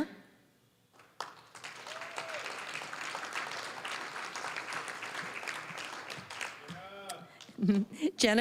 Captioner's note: applause